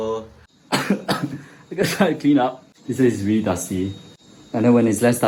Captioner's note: cough